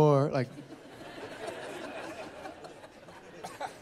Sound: laughter

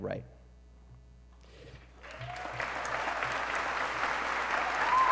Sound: applause

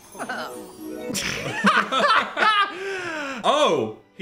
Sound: laughs

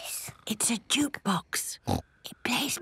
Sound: whispering

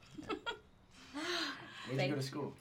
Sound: laughing

